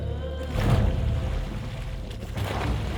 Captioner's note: oars splashing